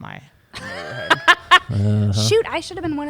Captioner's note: laughs